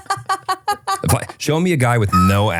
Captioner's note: laughing